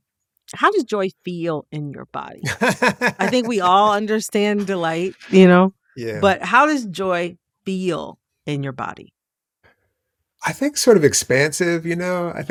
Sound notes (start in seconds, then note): 2.4 laughter